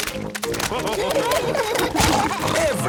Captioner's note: splashing